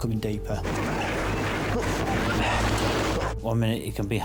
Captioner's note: waves roaring